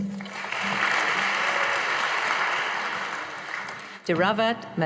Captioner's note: audience applauding